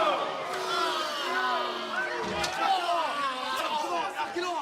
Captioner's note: crowd response